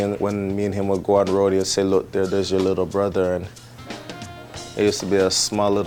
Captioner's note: none